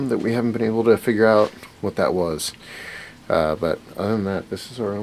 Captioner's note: none